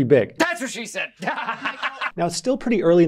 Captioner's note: laughs